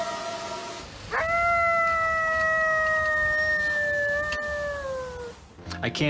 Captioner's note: eerie howl; coyote howls